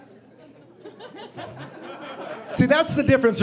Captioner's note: audience laughing